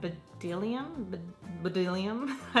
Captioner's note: laughs